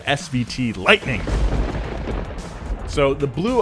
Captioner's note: loud thunder